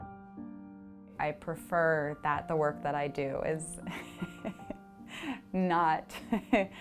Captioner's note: bright instrumental music continues; laughs